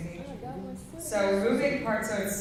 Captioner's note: faintly speaking